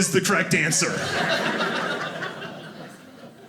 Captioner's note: audience laughing